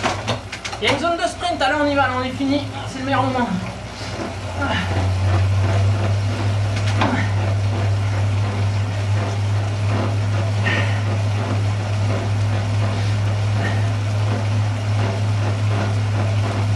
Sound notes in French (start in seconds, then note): 4.4 soufflements